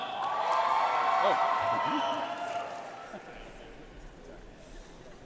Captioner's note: audience cheering and applauding